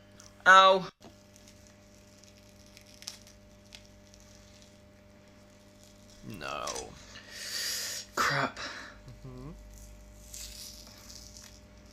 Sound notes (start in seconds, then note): 1.9 peeling; 9.2 peeling